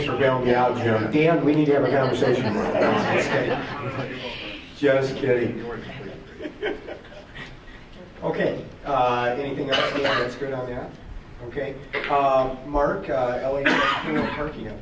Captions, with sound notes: >>Thanks for bailing me out Jim! Dan we need to have a conversation tomorrow. (group laughs) Nah I'm just kidding. (people talking) Just kidding (laughs). OK. Anything else, Dan, that's good on that? OK, Mark LHS pool and parking update.